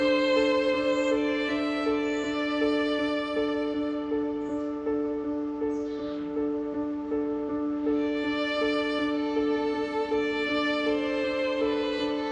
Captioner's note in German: Vogelgezwitscher